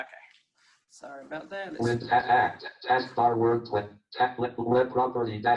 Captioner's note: JAWS speaking disjointedly